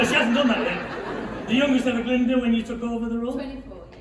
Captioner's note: chuckling